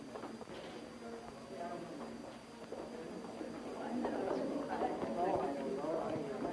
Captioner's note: students murmuring